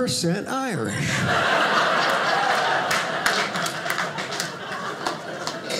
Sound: audience laughing

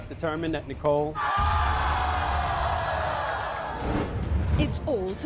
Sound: audience boos

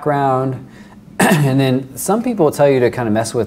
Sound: clears throat

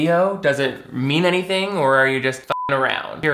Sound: beep

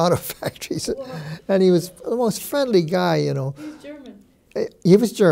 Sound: chuckles

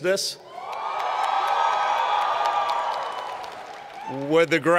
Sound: cheers and Applause

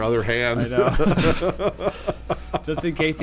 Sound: laughing

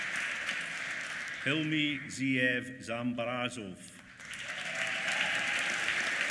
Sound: applause

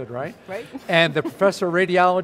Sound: laughs

